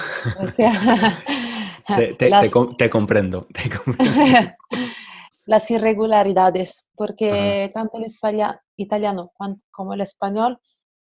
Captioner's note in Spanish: risas